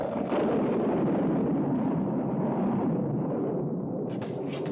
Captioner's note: thunder crashing